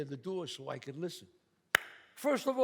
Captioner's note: claps